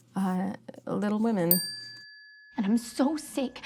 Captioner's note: bell ringing